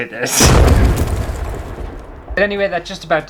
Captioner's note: explosions!!